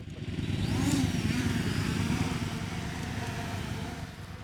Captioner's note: motor whirring